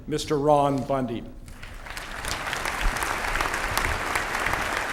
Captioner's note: applause